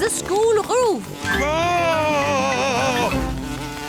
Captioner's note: screams